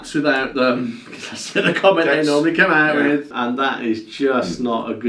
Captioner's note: laughs